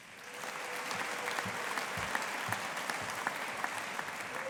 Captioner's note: audience applauding